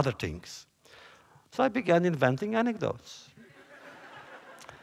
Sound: laughter

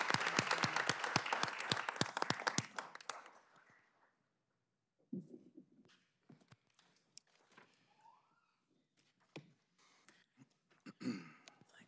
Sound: applause

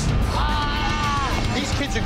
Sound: man groaning

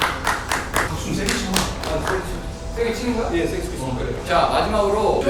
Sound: clap Clap

